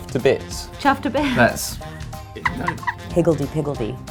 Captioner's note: laughs